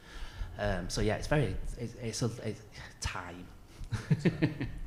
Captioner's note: laughs